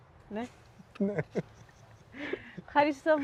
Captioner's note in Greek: γέλια